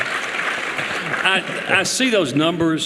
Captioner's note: applause